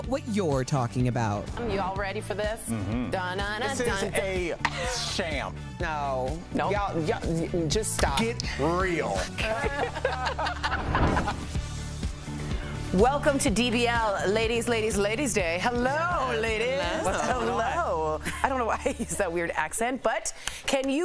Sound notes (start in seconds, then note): 9.2 laughter